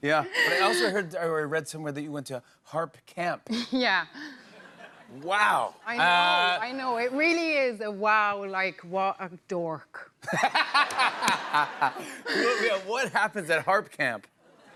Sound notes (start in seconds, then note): 10.2 laughter